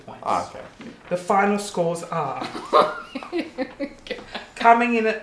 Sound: laughing

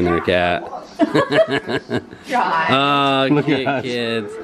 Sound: laughing

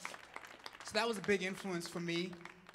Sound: audience clapping and cheering

